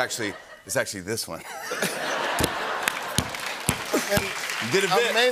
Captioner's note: laughter and applause